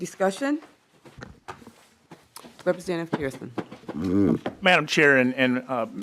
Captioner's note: gavel